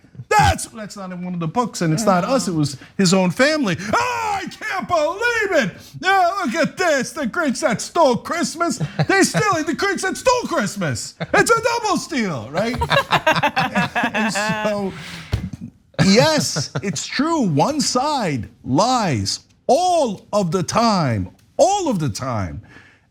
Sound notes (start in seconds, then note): 12.4 laugh